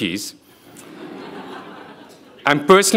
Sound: audience laughing

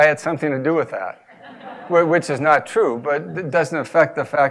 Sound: laugh

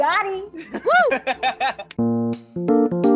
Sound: laughs

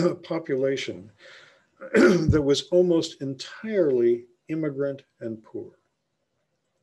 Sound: clears throat

